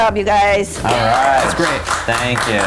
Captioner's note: applauding loudly